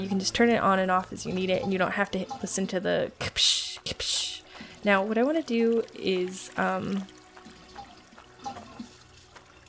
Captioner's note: water sounds